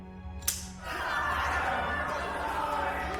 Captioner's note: gun snaps; crowd jeers